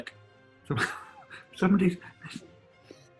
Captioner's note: laughing sigh; sniggering and giggling